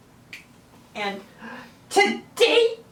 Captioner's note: gasp